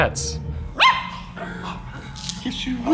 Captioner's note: barks